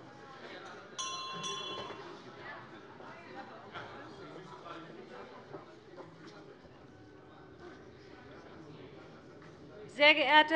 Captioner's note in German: Unruhe - Glockenzeichen des Präsidenten